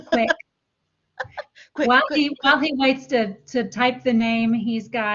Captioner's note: laughter